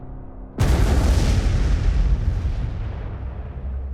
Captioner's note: blasting sound